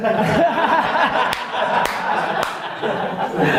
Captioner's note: laughs